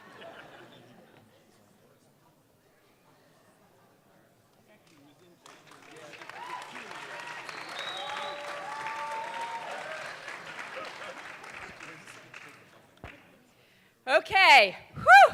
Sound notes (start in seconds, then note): 0.0 audience laughing; 7.6 audience clapping and cheering